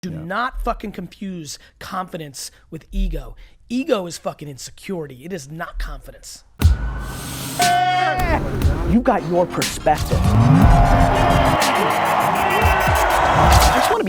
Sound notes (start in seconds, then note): 8.2 yelling; 9.4 crowd cheering